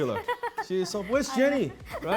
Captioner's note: laughing